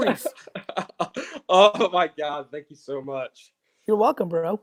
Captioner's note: laughs